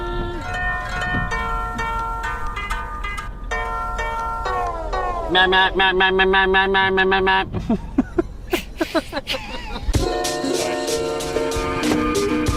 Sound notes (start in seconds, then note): 0.2 upbeat music; 7.9 laughing; 9.9 upbeat music